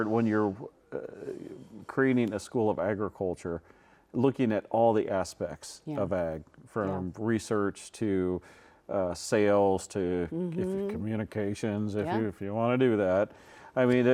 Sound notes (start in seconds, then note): none